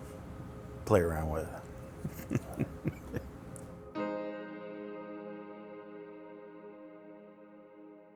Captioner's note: laughter